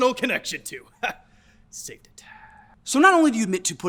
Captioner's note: chuckles